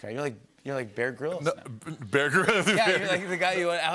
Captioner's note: laughter